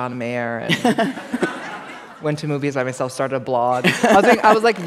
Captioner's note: laughter